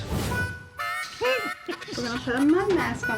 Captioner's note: giggling